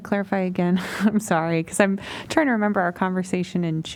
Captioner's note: laughter